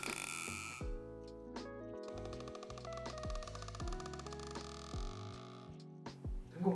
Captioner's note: injecting gas / Releasing air